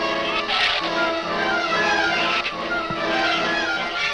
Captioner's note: shrews snarl